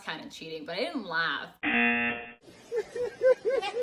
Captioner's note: buzzer; reporter continues laughing